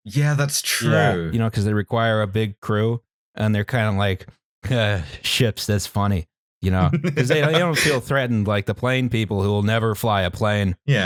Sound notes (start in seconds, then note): 4.5 Ship Person voice; 6.8 chuckles